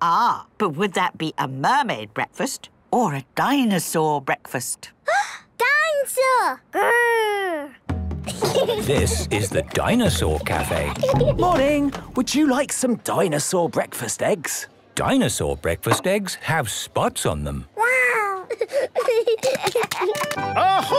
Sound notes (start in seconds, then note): 5.3 gasps; 8.2 children giggling; 18.3 giggling